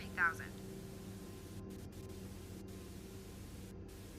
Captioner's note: static buzzing